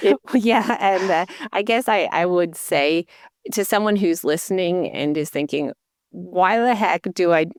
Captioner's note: chuckling